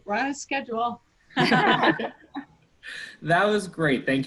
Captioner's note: laughter